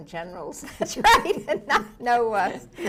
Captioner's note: laughs